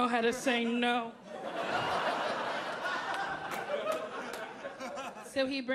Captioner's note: audience laughing